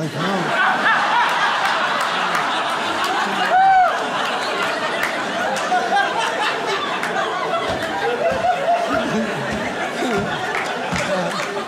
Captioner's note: audience laughs